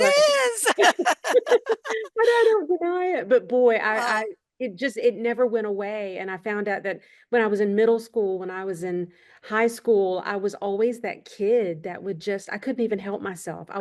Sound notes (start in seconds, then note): 0.4 laughter